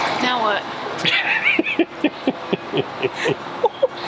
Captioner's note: laughing